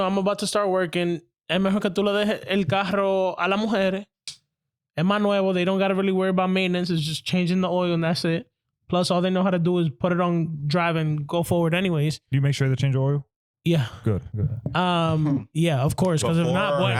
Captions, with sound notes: I'm about to start working. (Speaking In Foreign Language) And my Nuevo, they don't got to really worry about maintenance, it's just changing the oil, and that's it. Plus all they know how to do is put it on drive and go forward anyways. Do you make sure they change the oil? Yeah, of course, cause it's not one.